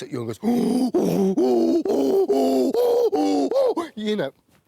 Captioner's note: angry chimp noises